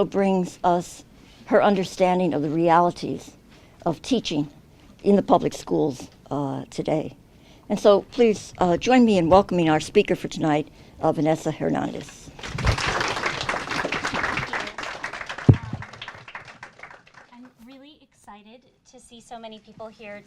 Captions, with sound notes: brings us her understanding of the realities of teaching in the public schools today. And so please join me in welcoming our speaker for tonight, Vanessa Hernandez. [APPLAUSE] Thank you. I'm really excited to see so many people here